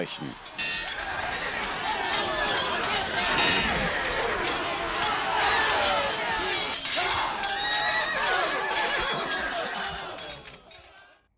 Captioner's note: battle noise